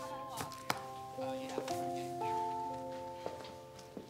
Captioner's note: hand thudding; footsteps plodding